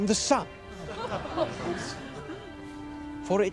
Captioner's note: <i> crowd laughs</i>